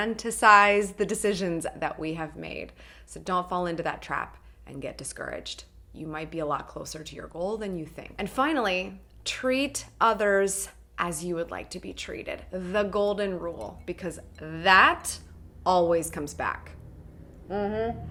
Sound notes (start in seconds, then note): none